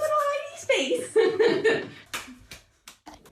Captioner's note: laughs